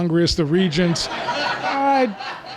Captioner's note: laughter